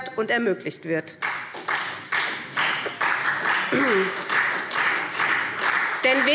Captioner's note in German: Beifall SPD